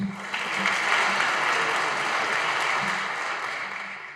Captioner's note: audience applauding